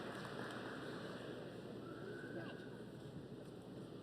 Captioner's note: applause